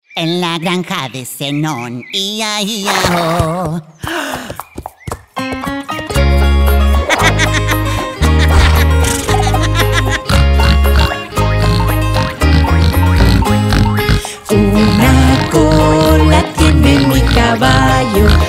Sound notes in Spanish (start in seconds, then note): 3.5 Relincho; 4.9 Sonido de caballo; 11.7 Música alegre